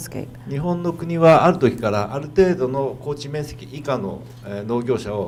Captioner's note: speaking foreign language